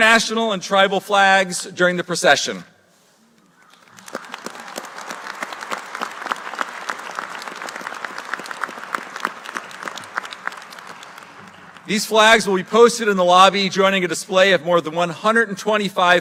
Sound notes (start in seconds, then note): 4.2 applause